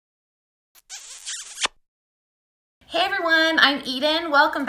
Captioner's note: smooching